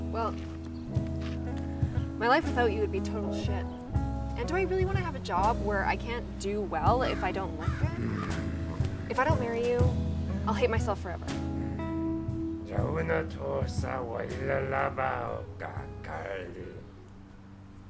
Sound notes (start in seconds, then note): 12.4 alien Language Sounds